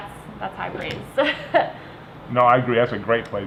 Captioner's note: laughter